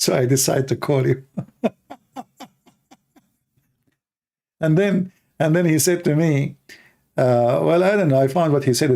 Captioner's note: Ketawa